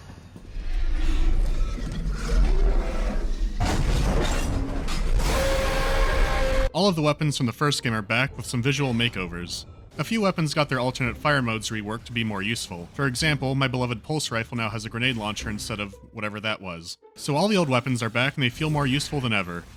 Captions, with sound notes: [deafening roar] All of the weapons from the first game are back, with some visual makeovers. A few weapons got their alternate fire modes reworked to be more useful. For example, my beloved pulse rifle now has a grenade launcher, instead of… whatever that was. So, all the old weapons are back and they feel more useful than ever.